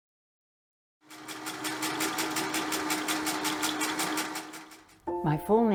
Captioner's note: machine whirring and clicking